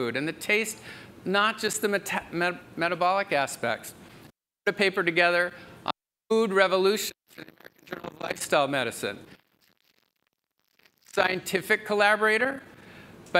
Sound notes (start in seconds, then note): 7.3 audio breaks; 10.8 audio breaks